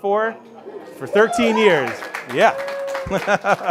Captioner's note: laughs